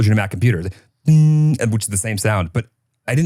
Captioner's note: hums